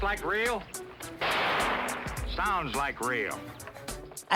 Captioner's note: toy gun banging